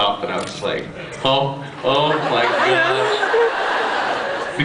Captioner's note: laughs